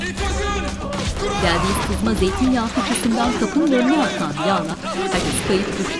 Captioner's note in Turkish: Düşme sesleri